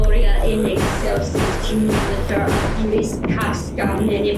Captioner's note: something banging